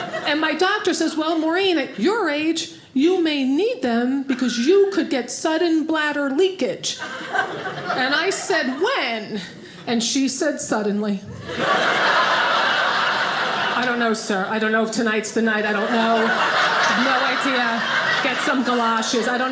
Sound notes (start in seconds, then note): 11.3 audience laughing